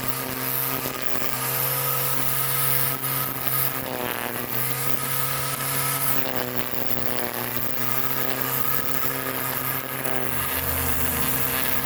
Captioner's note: string Trimmer Noise